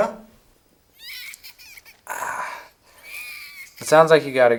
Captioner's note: child scream crying